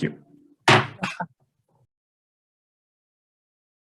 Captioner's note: gavel bangs